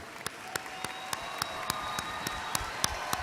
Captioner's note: applause